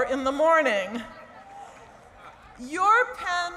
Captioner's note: laughter